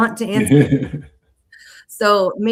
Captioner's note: laughing